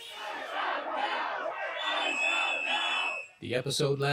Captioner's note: protestors chanting